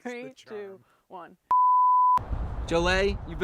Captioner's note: production tone beeping